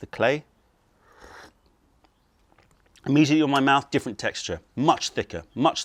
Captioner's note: sips tea